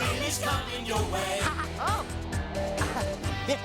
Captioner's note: chuckling